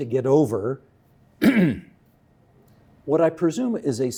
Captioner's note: clearing throat